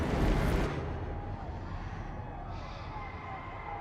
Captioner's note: yells and screams echoing